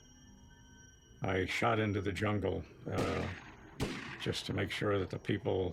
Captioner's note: gun banging